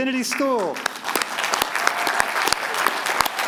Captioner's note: applause